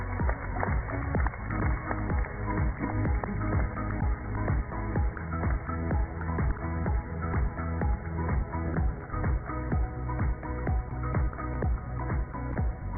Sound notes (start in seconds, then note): 0.0 cheers and applause